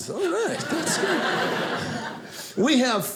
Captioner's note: audience laughing